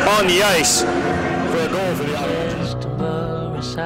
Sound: voice fades away

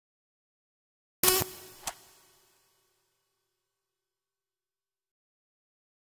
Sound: sound of robotic buzz

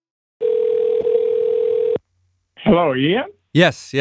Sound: phone ringing

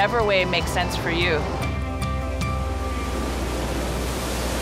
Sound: waves crashing forcefully

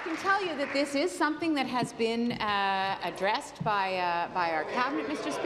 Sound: applause

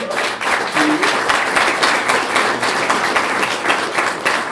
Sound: clapping

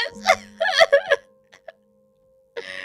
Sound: cries

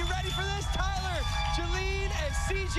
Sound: cheers and applause

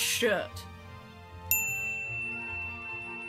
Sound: ping

